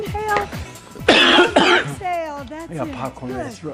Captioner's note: coughing